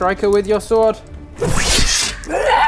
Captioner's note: whoosh!